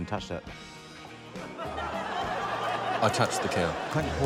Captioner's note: laughter